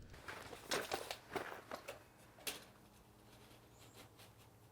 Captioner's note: none